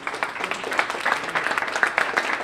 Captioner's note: applause